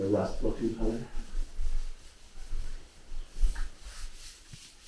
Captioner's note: cloth rustling